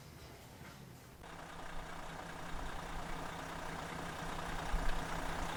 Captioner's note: engine running